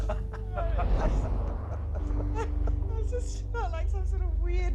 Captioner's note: laughter